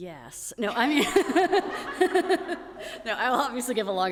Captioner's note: everyone laughing